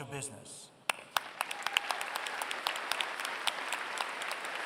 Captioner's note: applause